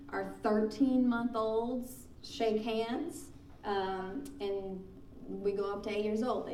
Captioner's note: none